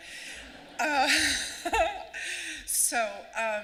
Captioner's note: laughing